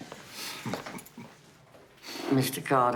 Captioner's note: chuckles